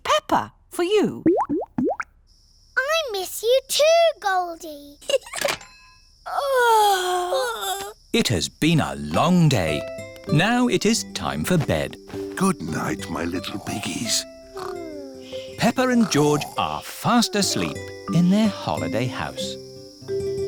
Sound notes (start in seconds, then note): 1.2 bubbling; 5.0 giggles; 6.2 both yawn